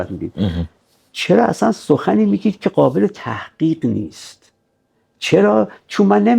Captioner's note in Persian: گلویش را صاف می‌کند